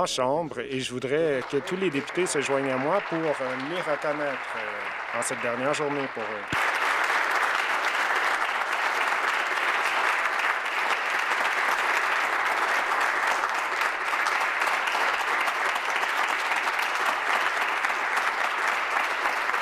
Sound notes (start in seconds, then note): 8.2 applause